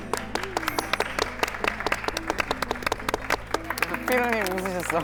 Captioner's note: applause